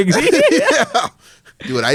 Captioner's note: laughs